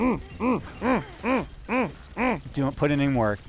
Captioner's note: grunting